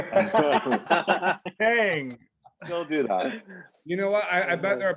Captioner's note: all laugh